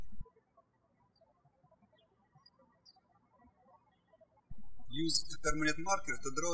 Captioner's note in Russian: птички щебечут